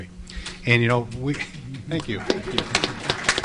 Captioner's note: applause